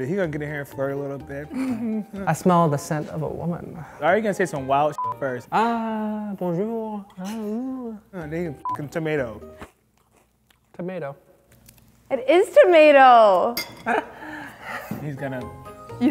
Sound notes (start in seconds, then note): 5.0 beep; 8.6 beep; 9.6 chewing toast; 13.6 laughing